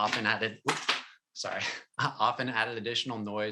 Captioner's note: chuckles